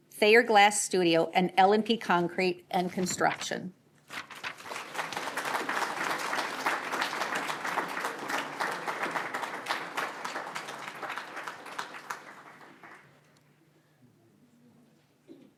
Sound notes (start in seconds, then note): 4.2 applause